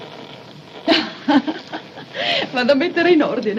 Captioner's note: chuckles; speaking in italian